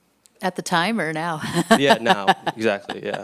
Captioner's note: chuckles